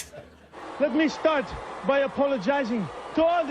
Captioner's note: French accent